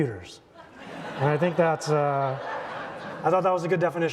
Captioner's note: audience laughing